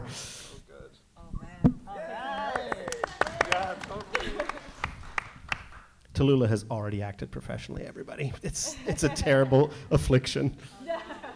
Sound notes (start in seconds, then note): 2.1 audience applauding; 10.6 all laughs